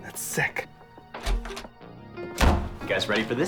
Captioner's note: door Opens